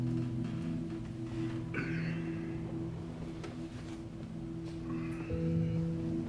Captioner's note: gentle music; Ben grunting